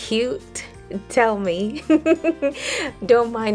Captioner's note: giggles